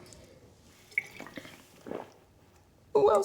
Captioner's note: guzzling wine